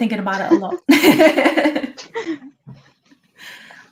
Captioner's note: laughing